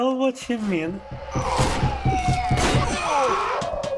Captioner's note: screaming